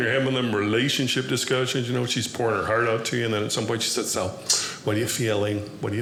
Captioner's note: none